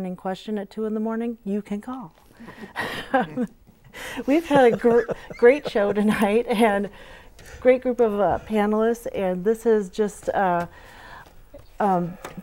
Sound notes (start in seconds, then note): 4.0 laughing